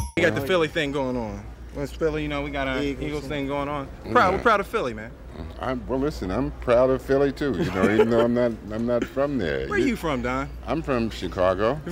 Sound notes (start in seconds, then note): 0.0 upbeat music; 7.6 laughing